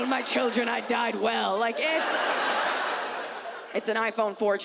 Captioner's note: audience laughs